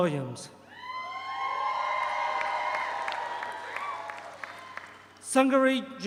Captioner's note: audience cheers; audience applauds